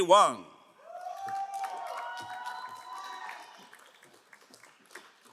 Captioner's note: crowd cheering and applauding